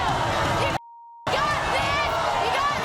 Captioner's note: beep